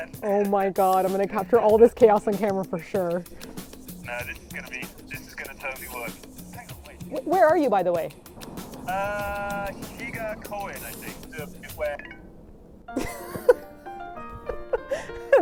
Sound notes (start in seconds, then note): 11.1 end call tone; 12.9 laughing